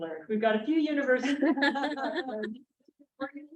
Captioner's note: chuckling